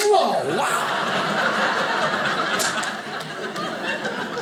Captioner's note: audience laughing